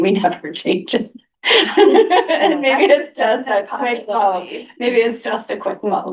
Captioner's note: laughter